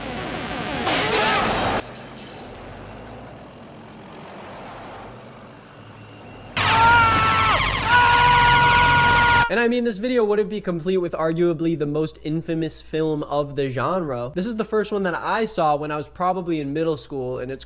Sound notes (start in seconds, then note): 0.0 electricity buzzing; 0.3 glass smashes; 6.6 man screaming; 6.8 sirens beeping